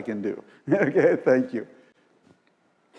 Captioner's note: laugh